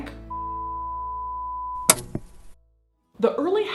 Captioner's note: beep